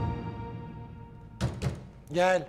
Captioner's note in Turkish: Kapı tıklatma sesi